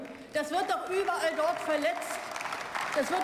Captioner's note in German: Beifall